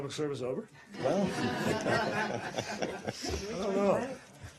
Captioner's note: reporters laugh